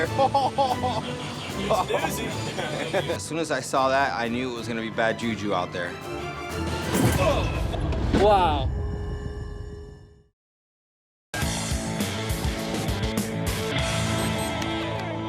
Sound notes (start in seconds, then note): 0.0 laughing; 7.4 heavy thudding; 11.4 uptempo musical theme